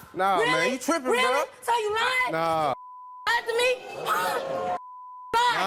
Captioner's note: beep